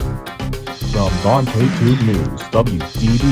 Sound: groovy music; announcer speaks

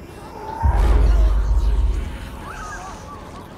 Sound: voices whispering

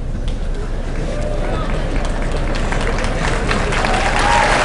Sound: applause

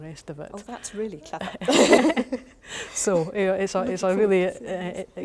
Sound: laugh

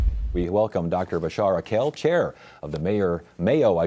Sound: logo whooshing

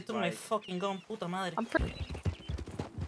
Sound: curses in Spanish

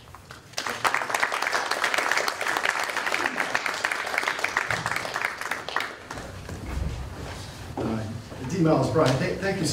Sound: applause

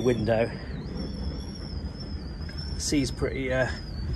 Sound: wind whistling louder

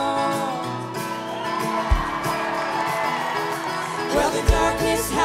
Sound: cheers and applause

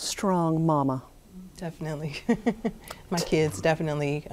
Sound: laughs

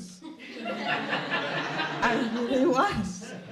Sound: attendees laughing

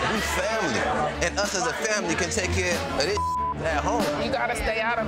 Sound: beep

